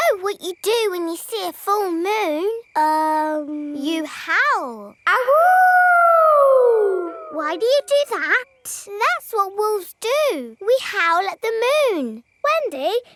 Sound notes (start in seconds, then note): 5.1 howling